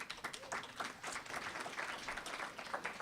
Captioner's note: applause